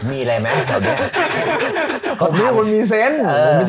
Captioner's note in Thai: หัวเราะ